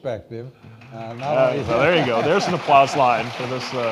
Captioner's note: audience applauding